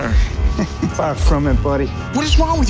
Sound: chuckles

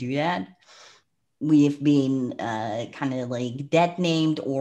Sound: breath

